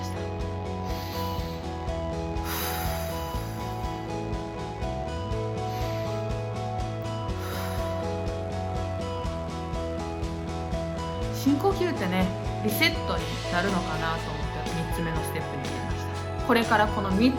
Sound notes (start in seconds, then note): 0.6 deep inhale; 2.4 deep exhale; 7.1 deep inhale; 7.2 deep exhale